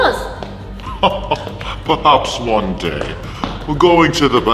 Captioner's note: laughs